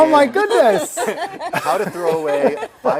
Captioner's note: laugh